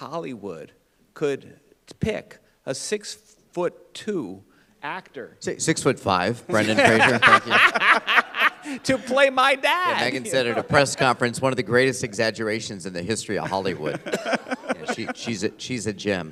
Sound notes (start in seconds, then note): 6.6 laughter; 13.4 laughter